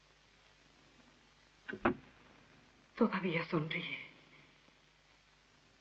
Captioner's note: door Closes